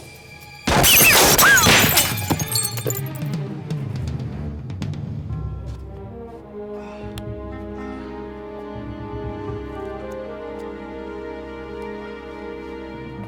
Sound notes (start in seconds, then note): 0.6 glass shatters; 0.7 gun fires; 7.8 dramatic music